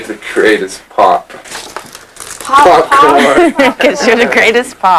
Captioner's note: laughter